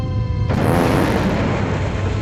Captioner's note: fart